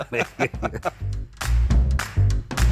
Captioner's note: both chuckling; upbeat music